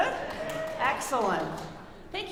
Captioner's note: audience cheering